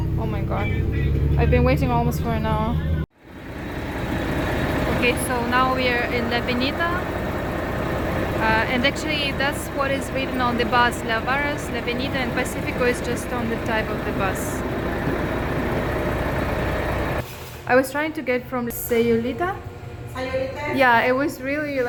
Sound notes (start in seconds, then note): 4.3 loud sound of bus's motor